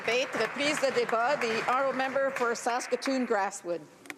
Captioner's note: applause